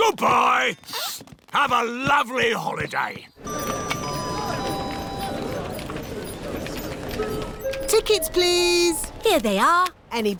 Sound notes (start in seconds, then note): none